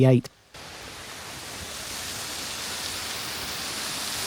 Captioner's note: sound of fountain